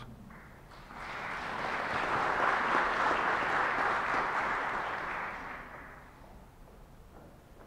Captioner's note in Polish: oklaski